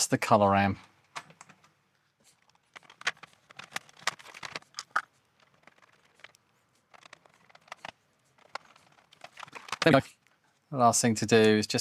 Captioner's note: typing